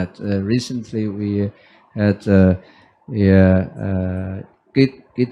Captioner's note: foreign language